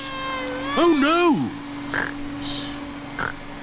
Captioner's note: snores; whirring stops